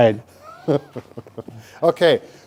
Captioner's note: chuckles